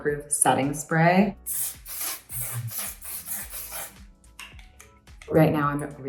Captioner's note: setting spray spritzing